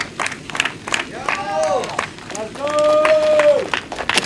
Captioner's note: cheering